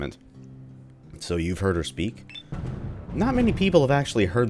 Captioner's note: thunder